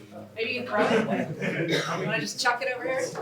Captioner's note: laughter